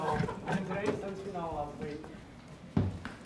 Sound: chatter in background

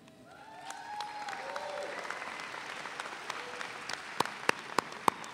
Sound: audience cheering

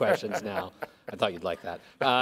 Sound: Tom and audience laughs

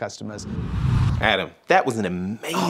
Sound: logo swooshes

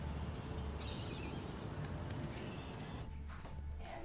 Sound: birds twittering

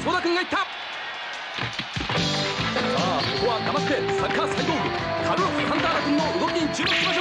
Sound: applause

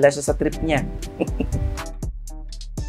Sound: laughs

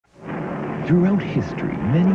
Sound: airplane engine

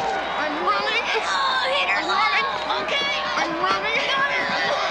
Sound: crowd yelling

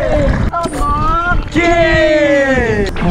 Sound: shouting all they want

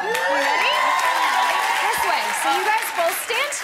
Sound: cheers and applause

